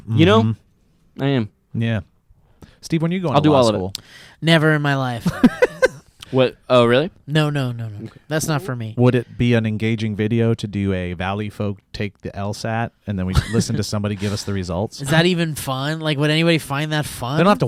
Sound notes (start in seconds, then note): 5.2 laughs